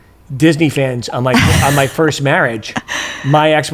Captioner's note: chuckles